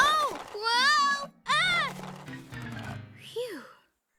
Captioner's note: gasps